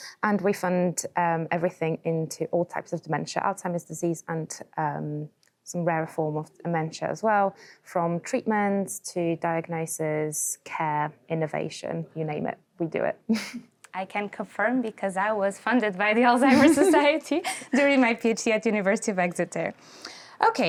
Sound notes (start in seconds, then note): 13.3 chuckles